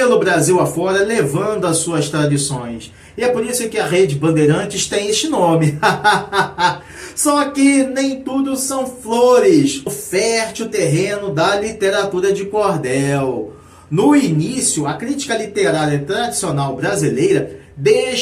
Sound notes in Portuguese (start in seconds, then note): 5.6 risadas